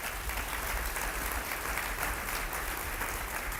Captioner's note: applause